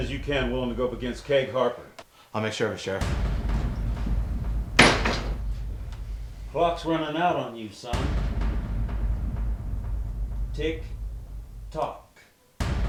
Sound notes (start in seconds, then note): 4.8 door slams